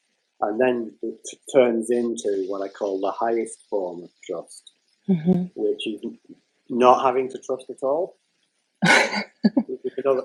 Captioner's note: laughter